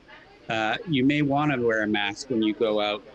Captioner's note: ladies talking